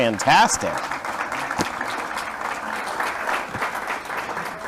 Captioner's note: applause